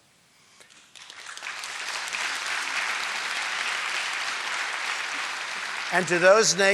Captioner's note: applause